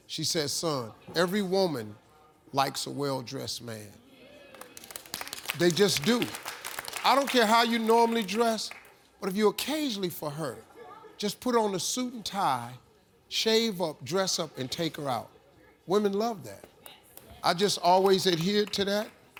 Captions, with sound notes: She said "Son, every woman likes a well dressed man." (applause) They just do. I don't care how you normally dress. But if you occasionally for her, just put on a suit and tie, shave up, dress up, and take her out, women love that. I just always adhered to that.